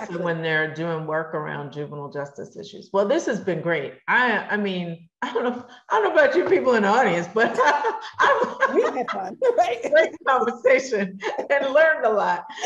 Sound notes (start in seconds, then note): 7.4 laugh